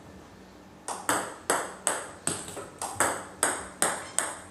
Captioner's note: ball ping pong hitting